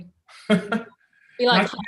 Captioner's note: Ta-Nehisi chuckles